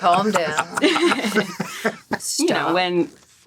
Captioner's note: all laughing